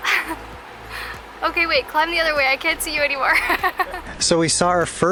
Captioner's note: laughter